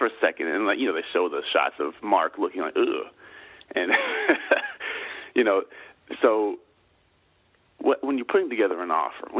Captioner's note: laughs